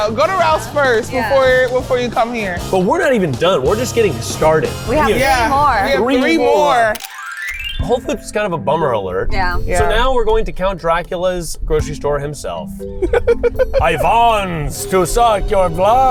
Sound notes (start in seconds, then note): 7.6 scene clicking; 13.0 laughing